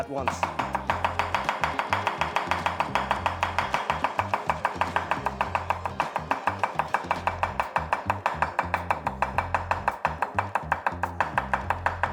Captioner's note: chopping